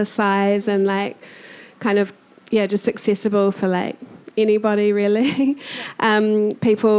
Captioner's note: chuckling